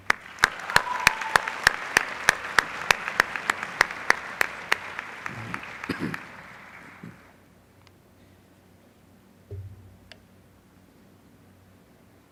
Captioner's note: applause